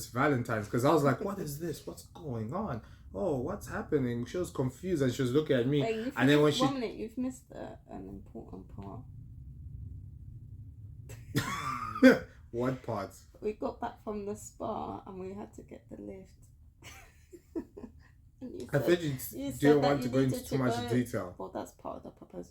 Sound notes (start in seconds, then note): 9.9 laughter